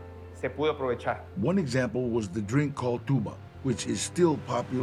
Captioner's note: in English